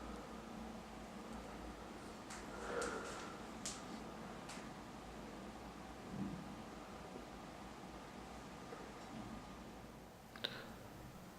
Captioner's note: breathing sounds